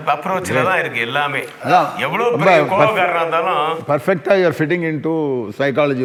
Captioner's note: continues in English